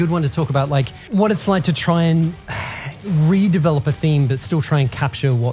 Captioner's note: sighs